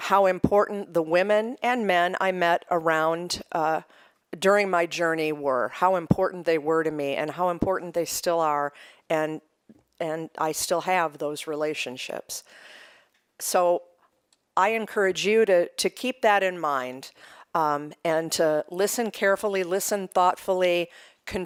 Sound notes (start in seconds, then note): none